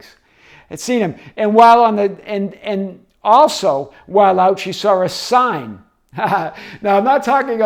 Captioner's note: laughing